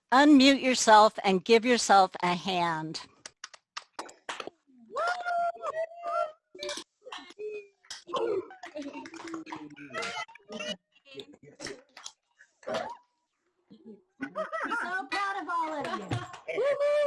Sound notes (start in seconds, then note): 3.2 clapping; 4.9 cheering; 13.7 laughs; 16.0 cheering